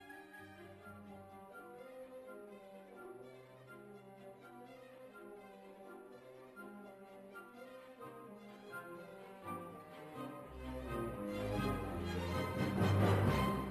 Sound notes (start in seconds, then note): 0.5 speaking French